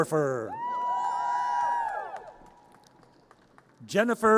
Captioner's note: audience cheers